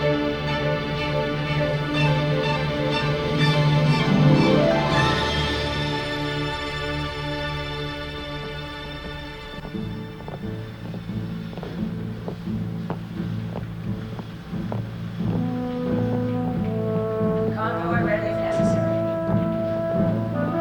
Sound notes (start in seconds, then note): 8.3 footsteps click in unison; 8.7 soft tense music